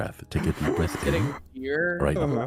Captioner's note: deep breath